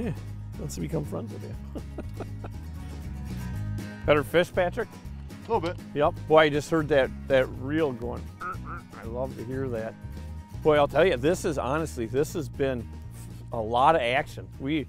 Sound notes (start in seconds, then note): 1.5 laughing